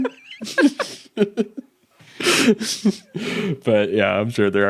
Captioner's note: both laughing